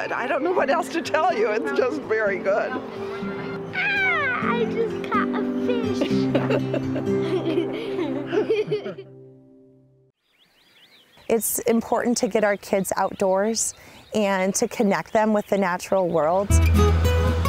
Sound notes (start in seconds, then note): 7.4 laughing